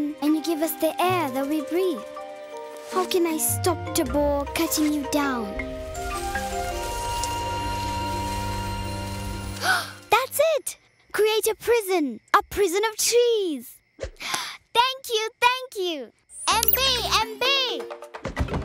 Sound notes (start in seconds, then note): 6.2 leaves rustling, soft rumbling; 9.2 gasping